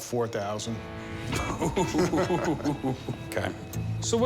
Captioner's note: chuckling